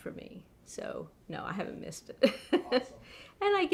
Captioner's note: laughs